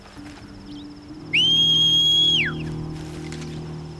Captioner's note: whistle